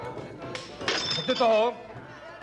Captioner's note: kepler shouts